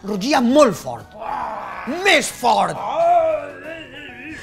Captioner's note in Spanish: grr